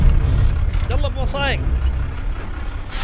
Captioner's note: Speaking in Arabic